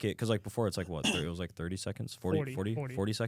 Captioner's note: coughs